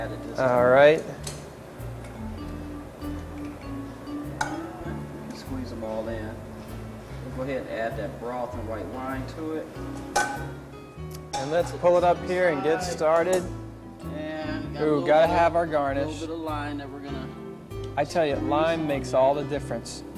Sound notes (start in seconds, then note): 4.3 kitchenware clatters; 9.8 more clattering